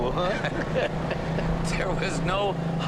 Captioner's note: both chuckling